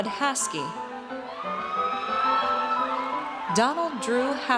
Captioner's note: audience cheers